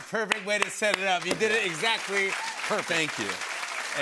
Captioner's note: applause